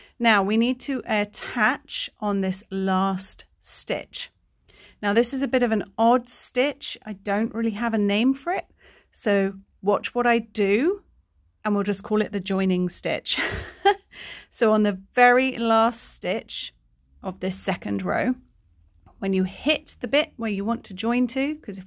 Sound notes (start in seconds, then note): 13.4 chuckling